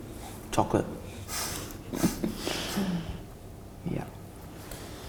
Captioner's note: laughs